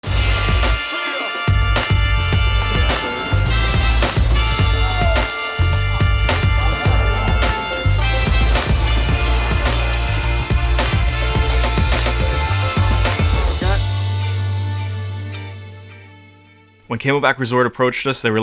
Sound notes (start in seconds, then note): 0.8 upbeat music; 11.7 drone whirring